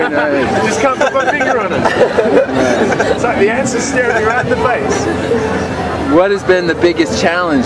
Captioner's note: laughing